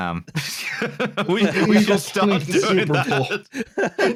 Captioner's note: laughing; laughs; laughter